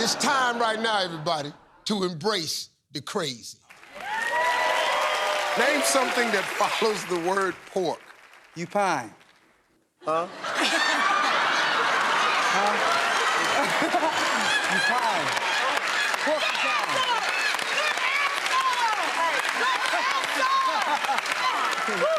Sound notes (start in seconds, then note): 3.7 cheers and applause; 10.3 laughter; 13.9 laughs